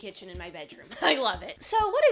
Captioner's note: laughs